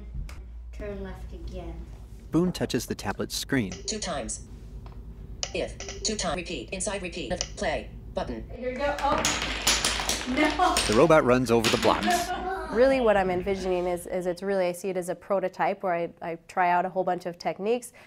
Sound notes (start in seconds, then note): 3.5 screen reader voicing instructions; 10.7 blocks clattering